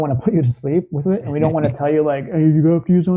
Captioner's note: in a mocking voice